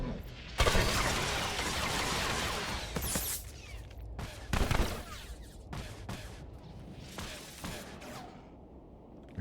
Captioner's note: gun firing